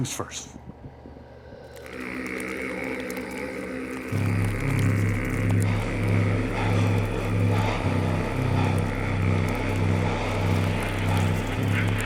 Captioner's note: grumbling